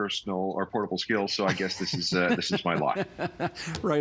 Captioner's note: laughing